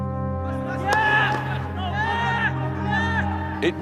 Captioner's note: players shouting